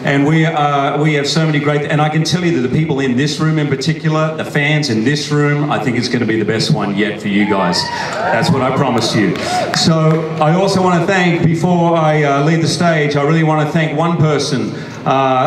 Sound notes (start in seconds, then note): 7.3 audience cheers